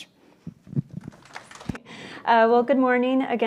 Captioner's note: audience applauds